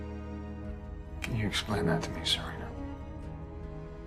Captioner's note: voiceover